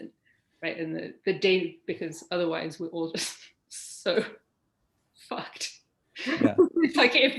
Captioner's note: laughing